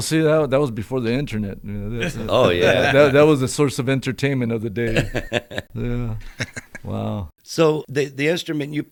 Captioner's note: laughter